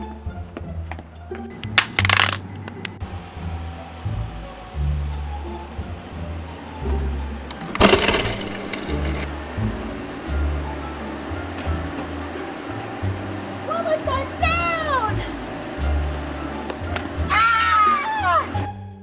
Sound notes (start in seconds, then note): 7.5 phone Cracking; 17.2 screams